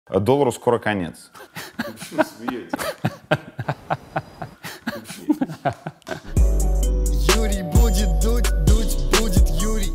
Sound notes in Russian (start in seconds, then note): 1.4 смеется; 6.2 музыкальная заставка